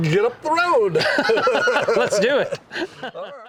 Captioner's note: all laughing